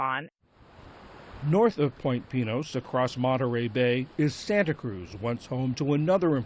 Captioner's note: voice-over